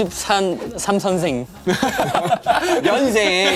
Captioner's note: haha / Haha / Haha